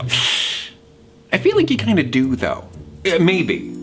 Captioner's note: inhales sharply